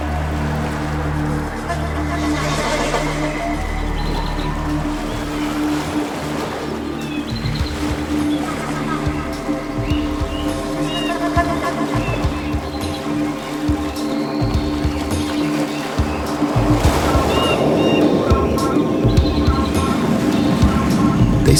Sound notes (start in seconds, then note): 4.0 ambient music continues; 4.0 birds chirping; 16.6 ambient music; 16.6 wind blustering